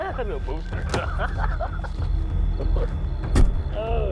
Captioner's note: laughing